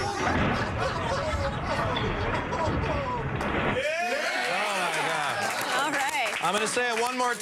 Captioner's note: applause